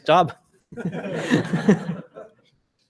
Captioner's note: laughter